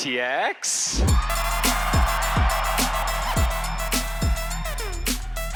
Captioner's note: audience cheering